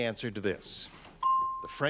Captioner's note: ding